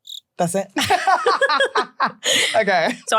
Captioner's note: crickets chirping; both laughing